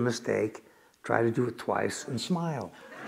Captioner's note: laughter